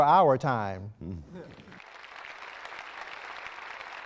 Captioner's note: applause